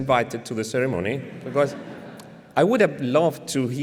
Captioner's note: laughter